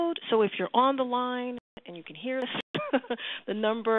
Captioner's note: laughter